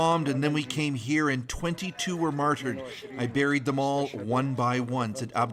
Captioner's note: speaking alternate language